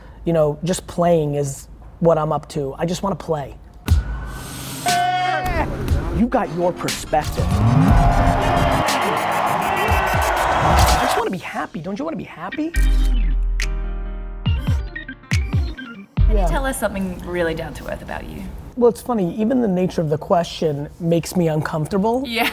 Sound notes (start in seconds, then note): 5.5 upbeat music; 8.7 crowd cheering; 12.7 upbeat pop music